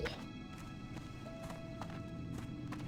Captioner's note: footsteps